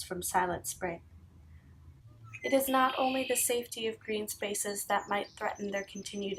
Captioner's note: loud bird sounds